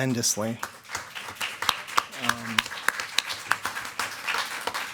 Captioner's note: attendees clapping